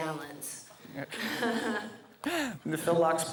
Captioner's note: laughs